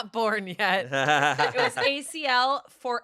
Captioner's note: everyone laughs